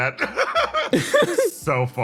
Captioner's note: laughs